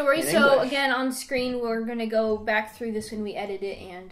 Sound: in English

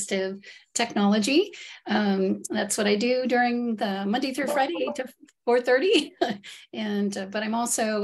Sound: giggle

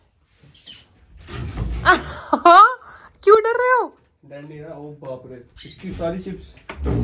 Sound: laughs

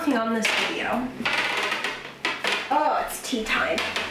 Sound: chair creaking

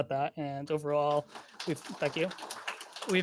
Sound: applause

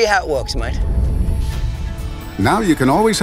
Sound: whooshing

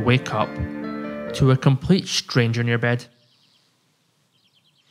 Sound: bird chirping

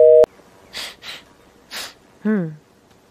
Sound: Sniffing Chicken Biskit

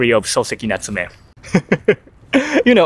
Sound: laughs

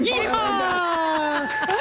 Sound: laughter

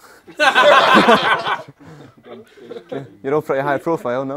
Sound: people laughing

